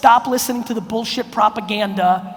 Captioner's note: none